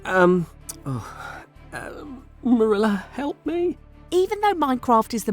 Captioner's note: sighs